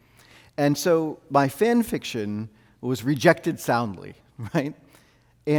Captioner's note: chuckles